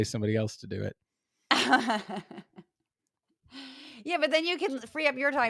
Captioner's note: laugh